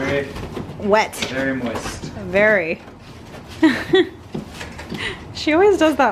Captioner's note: chuckles